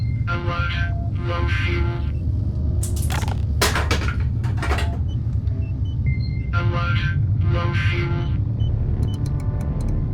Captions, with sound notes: Alert, low fuel. (can thuds) Alert, low fuel.